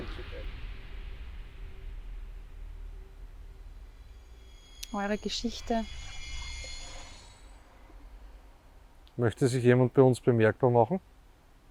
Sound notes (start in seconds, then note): 0.0 wind in the background